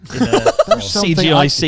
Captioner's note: laughs